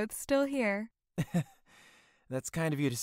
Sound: nervous laugh

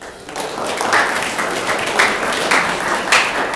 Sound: room applauds

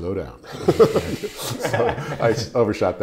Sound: laughing loudly

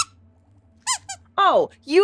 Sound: squeaks squeaking

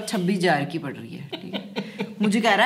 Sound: laughing

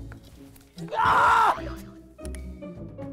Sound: shriek of pain

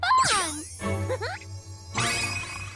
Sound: Pinkfong giggles

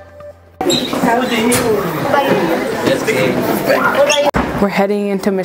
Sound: students chattering

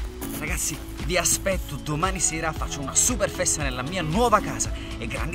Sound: speaking in foreign language

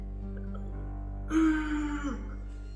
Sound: groans

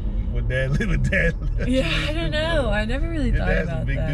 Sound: laugh

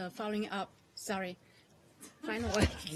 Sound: laughter

